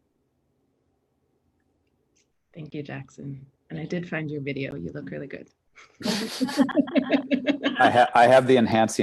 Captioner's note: laughter